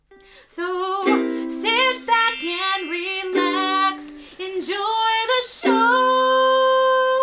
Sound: sung; chimes; crackling

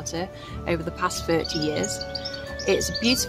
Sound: birds chirping

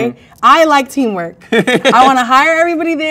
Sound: man laughs

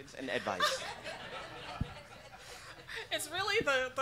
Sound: laughing

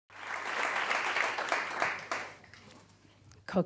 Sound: applause

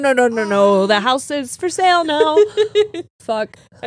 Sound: laughs

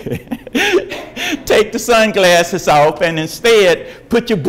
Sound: laughs

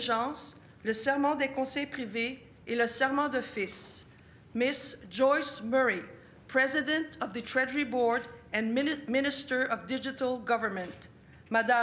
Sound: speaking French

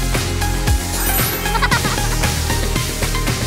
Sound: giggling

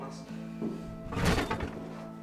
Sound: offscreen CRASH

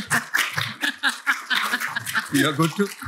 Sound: laughs; applause

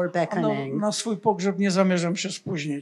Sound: foreign language

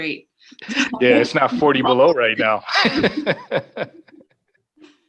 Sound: laughs

